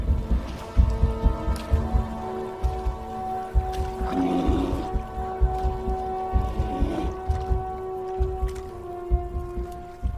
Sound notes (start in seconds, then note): 3.7 roaring